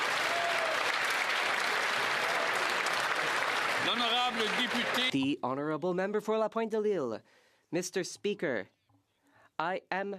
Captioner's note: some Applause